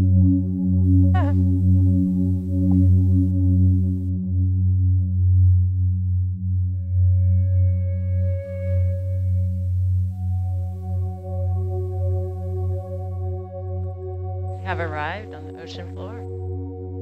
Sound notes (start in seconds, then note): 1.2 giggles; 2.7 ethereal music